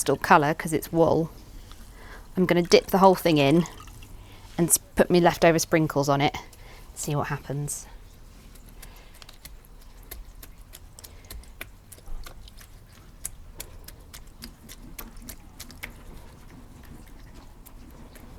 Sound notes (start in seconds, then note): 10.2 patting; 12.4 shaking of sprinkles